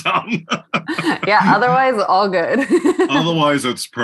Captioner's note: laugh